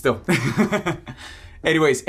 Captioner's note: laughs